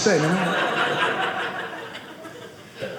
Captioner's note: audience laughing